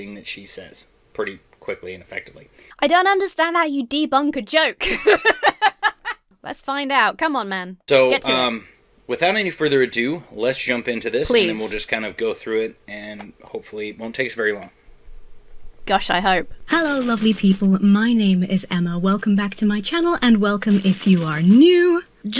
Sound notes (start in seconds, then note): 4.8 laughs